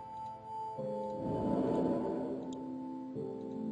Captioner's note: spooky noise